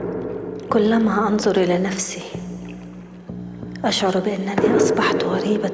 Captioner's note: foot stomps; woman speaking in foreign language